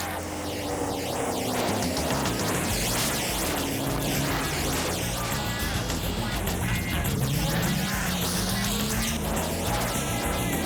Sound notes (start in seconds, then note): 3.9 car engines revving; 6.4 John laughs